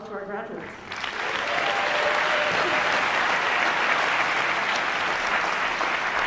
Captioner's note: applause